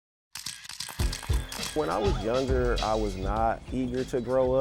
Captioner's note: camera shutter clicking